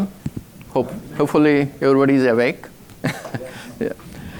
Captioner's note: chuckles